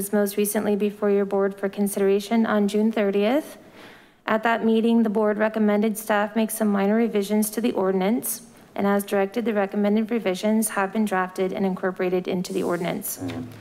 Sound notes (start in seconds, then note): none